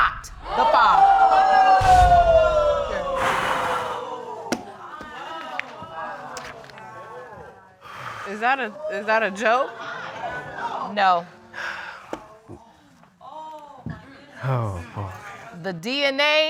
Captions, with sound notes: -are not the father. -[audience exclaiming] [exhales] Is that a... Is that a joke? No. Oh, boy.